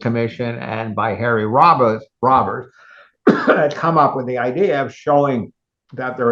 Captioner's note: cough